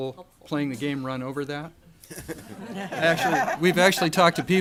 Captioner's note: audience laughter